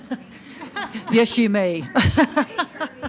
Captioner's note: laughs